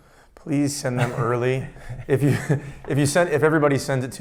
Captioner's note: chuckles